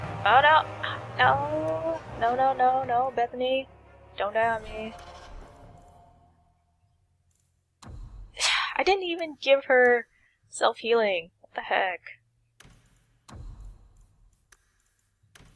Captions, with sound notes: Oh no- NO, no, no, no, no Bethany! Don’t die on me. [sigh] I didn’t give her self-healing, what the heck?